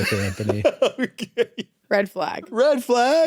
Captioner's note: laughs